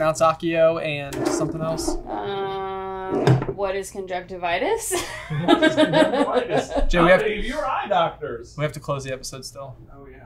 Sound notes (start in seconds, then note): 5.0 laughs